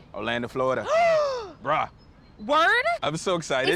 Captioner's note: gasps